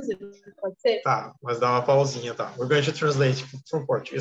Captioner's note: speaking portuguese